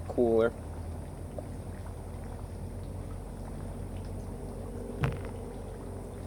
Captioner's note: sips graciously